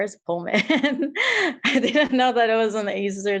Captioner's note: laughs